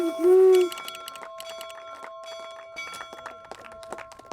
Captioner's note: applause and cheering; bell ringing